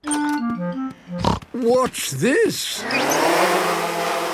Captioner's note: snorting